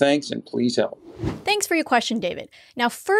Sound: air whooshing

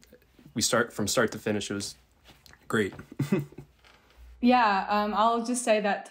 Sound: laughs

